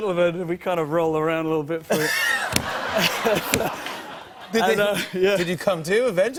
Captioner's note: laughter